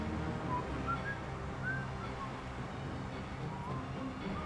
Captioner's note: whistling